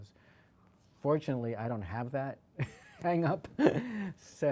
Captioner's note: laughs